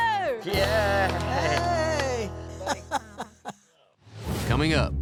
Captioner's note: grandma laughs